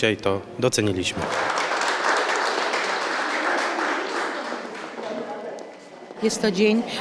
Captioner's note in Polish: oklaski